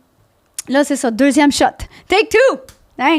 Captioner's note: in french; in french